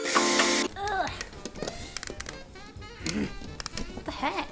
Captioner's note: grunting